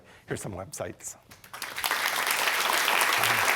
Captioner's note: applause